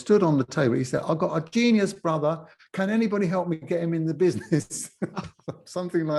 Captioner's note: cockney accent; laughs